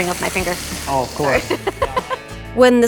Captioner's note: laughs